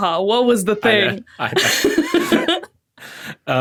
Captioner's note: stammers; laughs